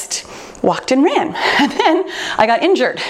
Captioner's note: chuckles